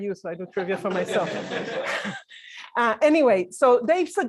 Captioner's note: laughter